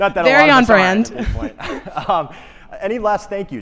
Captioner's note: chuckles